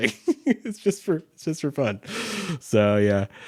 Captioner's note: chuckles